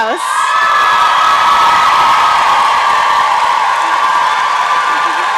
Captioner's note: applause and cheering